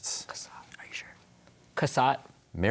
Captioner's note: whispering